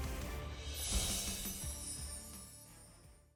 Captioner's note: chiming